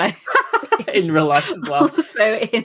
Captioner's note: laughs